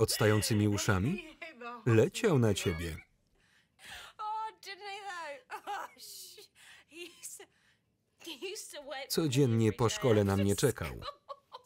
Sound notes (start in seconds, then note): 10.0 both laugh loudly